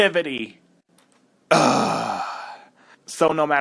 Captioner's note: groan